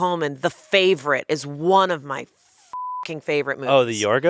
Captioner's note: beep